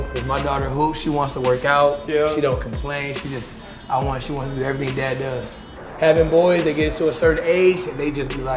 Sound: none

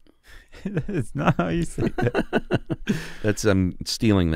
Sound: chuckling

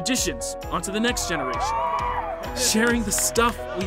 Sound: cheering

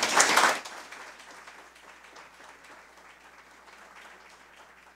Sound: audience applause

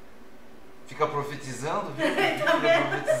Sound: laughs

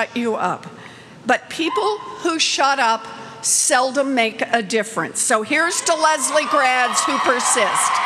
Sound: cheers

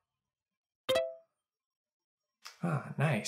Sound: notification sound

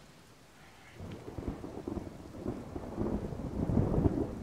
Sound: thundering

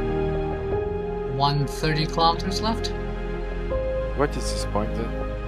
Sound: on the radio

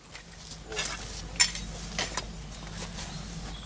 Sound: clanking

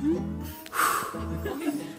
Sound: deep sigh

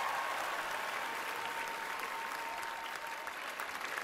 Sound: cheering, applause

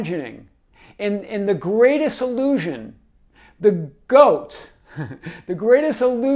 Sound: chuckles

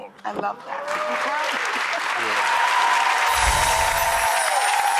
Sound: cheers and applause

